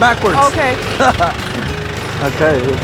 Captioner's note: laughs